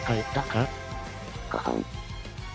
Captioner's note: ahem